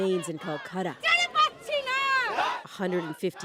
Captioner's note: chanting